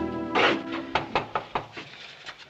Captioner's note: Knocking